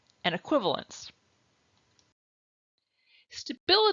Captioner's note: silence